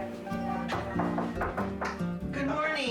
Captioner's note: knocking